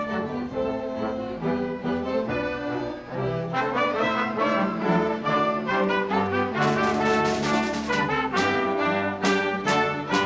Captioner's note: audience cheering and applauding; orchestral music playing